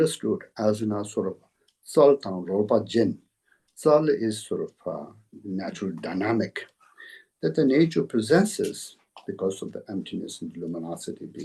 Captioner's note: tibetan